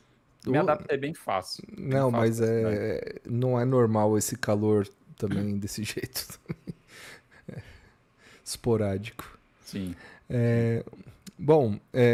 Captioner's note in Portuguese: risadas